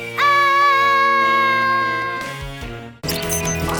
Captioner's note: excited music; Malice screams; thrilling music